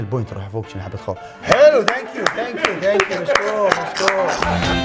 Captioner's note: laughs; claps